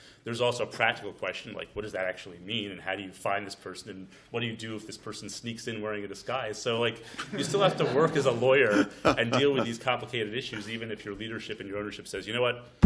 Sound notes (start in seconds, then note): 7.2 laughter